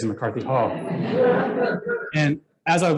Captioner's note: laughter